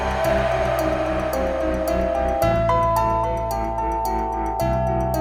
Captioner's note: demonic groaning echoes